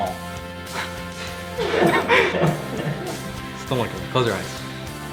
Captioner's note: chuckling